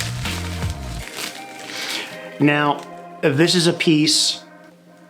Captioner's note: plastic wrap rustling